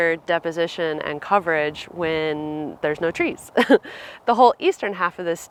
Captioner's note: laughing